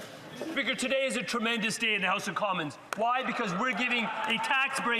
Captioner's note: some Applause